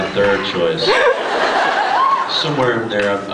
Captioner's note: laughs